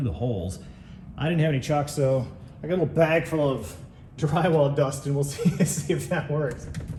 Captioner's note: laughs